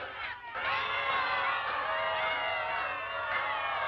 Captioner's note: women boo and jeer